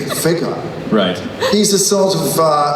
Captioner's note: voiceover